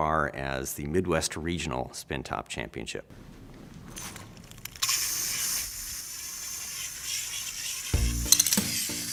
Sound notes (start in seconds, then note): 4.6 spin top gyrates rapidly